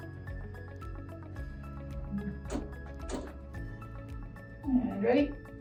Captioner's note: light upbeat music; machine clicking